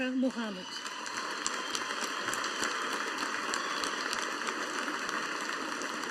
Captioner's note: audience applauding